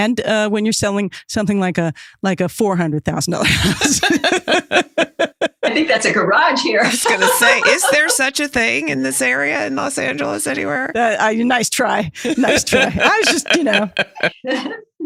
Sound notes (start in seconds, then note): 3.4 laughs